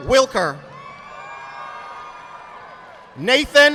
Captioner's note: audience clapping